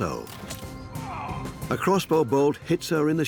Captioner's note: groans